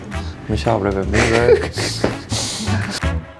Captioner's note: laugh